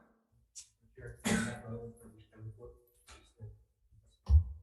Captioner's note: faintly speaking